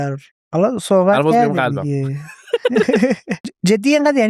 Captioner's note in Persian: خنده